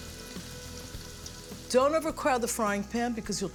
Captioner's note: none